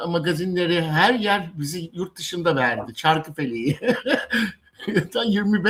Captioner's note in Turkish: kahkaha